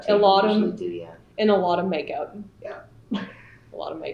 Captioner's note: laughter